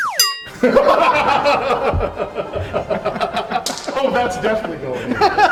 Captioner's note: laughter